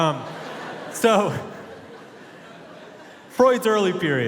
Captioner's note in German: Publikum lacht; lacht